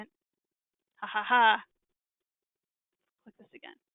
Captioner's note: laughing